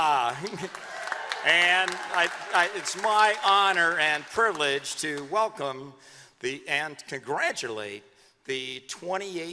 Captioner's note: applause